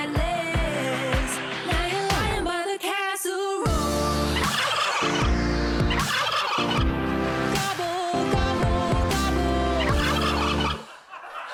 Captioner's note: gobbling